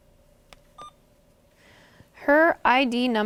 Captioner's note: Alaris pump beeps